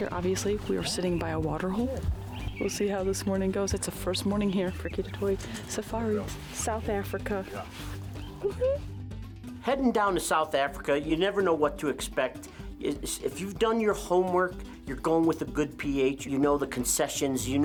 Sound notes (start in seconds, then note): 8.4 exclaiming in excitement; 9.4 upbeat guitar music